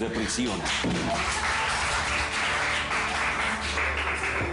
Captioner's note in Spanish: Aplausos